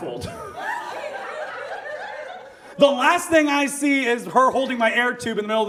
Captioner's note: audience laughs